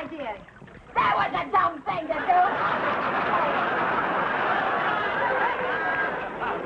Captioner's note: audience laughing